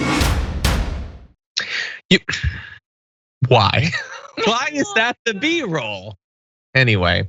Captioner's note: laugh